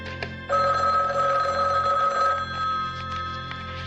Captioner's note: telephone rings